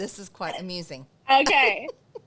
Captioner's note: laughs